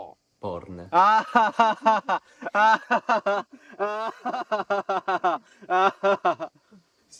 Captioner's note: laughter